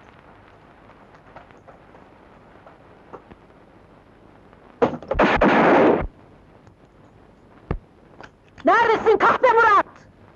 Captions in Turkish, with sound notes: [Silah sesleri] Neredesin kahpe Murat?